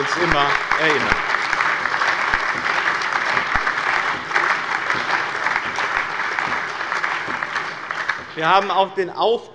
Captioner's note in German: Allgemeiner lebhafter Beifall